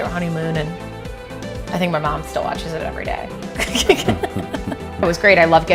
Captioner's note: laughs